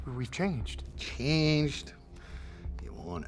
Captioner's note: scottish accent